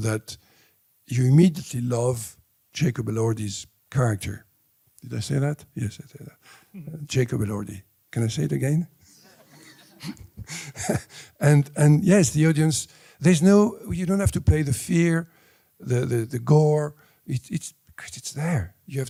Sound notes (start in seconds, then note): 9.2 crowd laughter